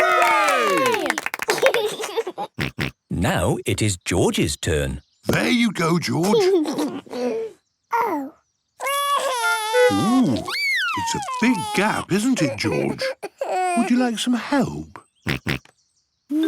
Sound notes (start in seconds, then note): 2.2 laughs; 8.8 cries; 15.1 snorts